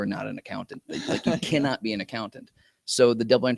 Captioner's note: laughter